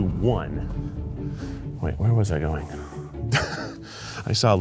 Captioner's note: upbeat orchestral music; laughs